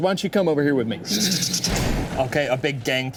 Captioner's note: plank thuds